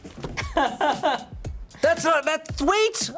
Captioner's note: crew member laughing